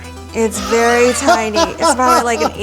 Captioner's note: Adam laughs